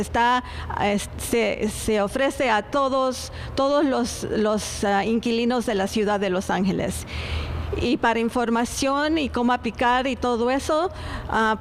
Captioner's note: speaking spanish